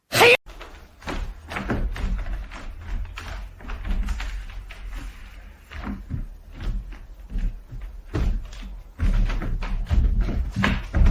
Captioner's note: silence, except floor creaking